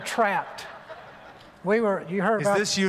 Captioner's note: laughter